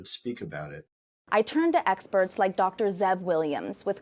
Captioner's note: voice-over